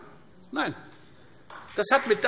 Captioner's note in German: Beifall Freie Demokraten